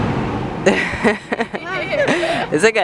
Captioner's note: laughter